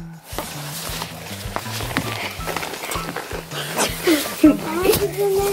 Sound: scuffling

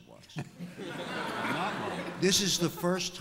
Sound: laughter

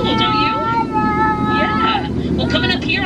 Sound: baby babbling

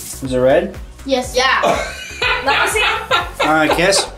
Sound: laughing

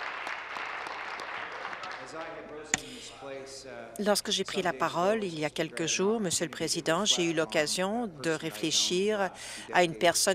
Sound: applause

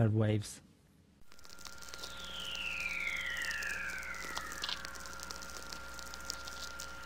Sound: static and whistling

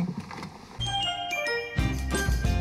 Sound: bell chiming

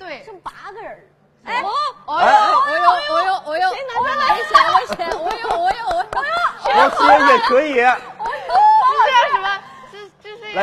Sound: gasping!

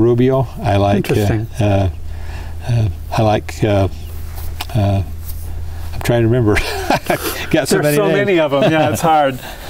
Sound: laughs

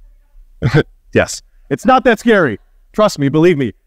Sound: chuckling

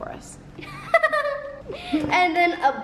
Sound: laughs

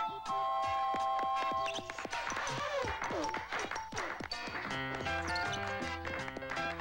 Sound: clapping

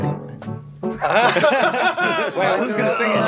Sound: all laughing

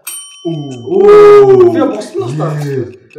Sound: wooh

